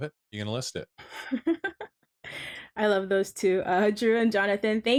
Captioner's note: chuckles